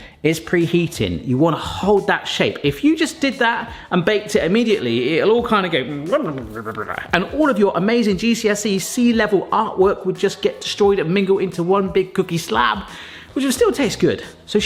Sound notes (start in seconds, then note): 6.2 gibbering